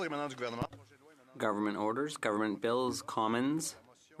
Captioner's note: speaking French